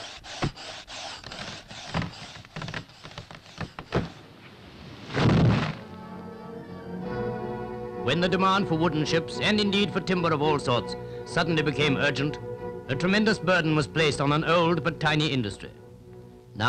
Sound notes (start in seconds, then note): 5.1 thud